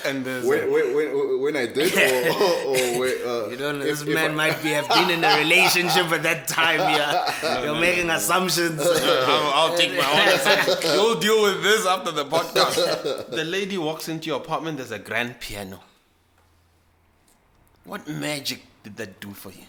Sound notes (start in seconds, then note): 4.1 laughs